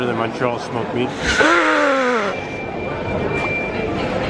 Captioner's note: groans